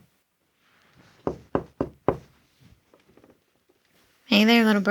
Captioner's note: knocking